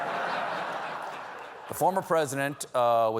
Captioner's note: laughter